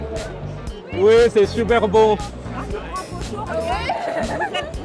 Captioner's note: laughs